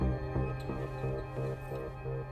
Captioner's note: swooce